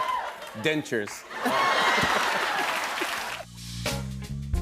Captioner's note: laughter